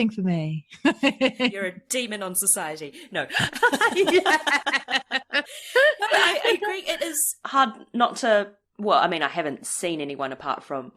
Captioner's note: laughs